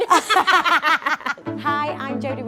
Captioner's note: both laugh